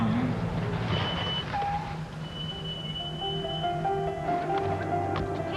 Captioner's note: brakes squeal